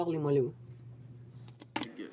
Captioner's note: speaking French